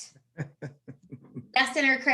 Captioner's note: laughs